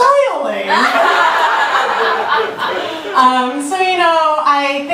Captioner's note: audience laughter